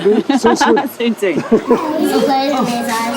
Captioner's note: speaking in foreign language